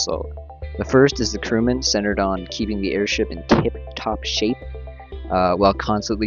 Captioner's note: wind